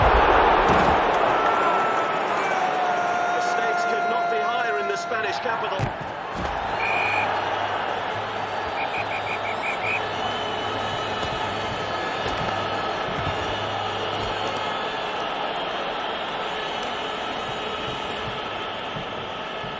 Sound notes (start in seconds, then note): 6.6 peluit berbunyi